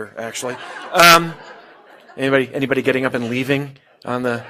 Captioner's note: laugh